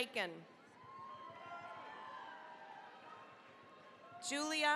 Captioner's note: cheering, applause